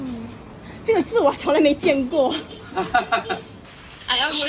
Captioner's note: laugh